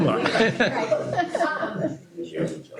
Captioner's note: laughter